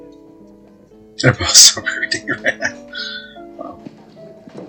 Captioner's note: chuckling